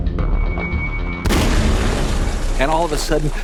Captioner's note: pop